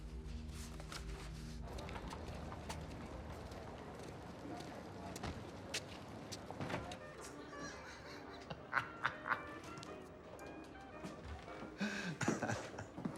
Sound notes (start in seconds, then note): 6.8 man laughs; 6.8 peaceful classic jazz music